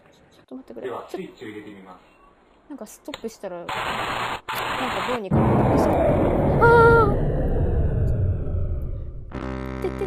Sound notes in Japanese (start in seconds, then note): 5.3 ドォォォン！; 9.2 効果音